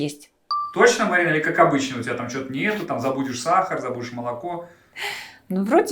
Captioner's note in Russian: закадровый голос